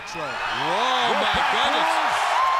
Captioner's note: crowd cheering